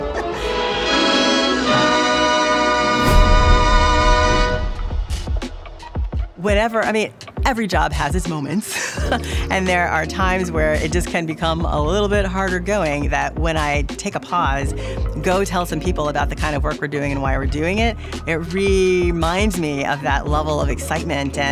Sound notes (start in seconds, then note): 5.4 rhythmic music; 8.6 laughs